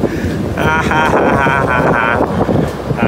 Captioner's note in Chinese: 苦笑